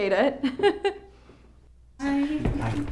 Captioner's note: laughs